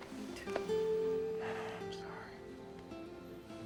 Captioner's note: sighs